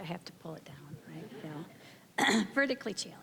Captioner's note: audience chuckling